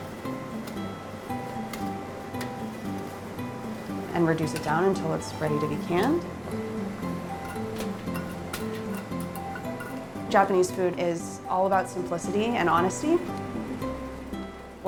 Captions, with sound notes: And reduce it down until it's ready to be canned. [ Tops clinking ] Japanese food is all about simplicity and honesty.